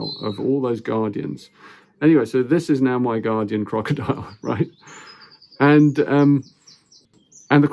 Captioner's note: chuckles